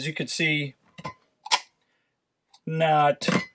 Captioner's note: cup clinks